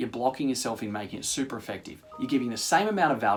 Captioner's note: chime